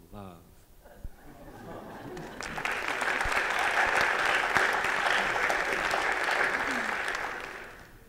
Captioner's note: applause